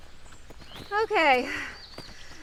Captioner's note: panting